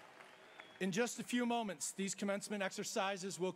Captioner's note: audience cheers